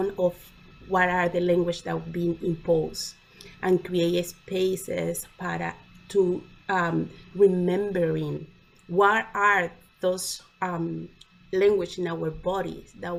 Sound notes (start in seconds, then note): none